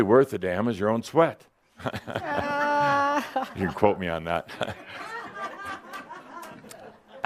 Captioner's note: some chuckles